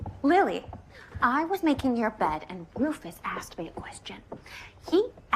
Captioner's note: none